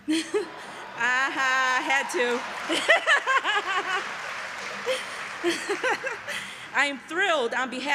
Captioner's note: laughter and Applause